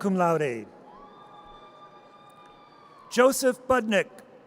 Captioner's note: audience cheers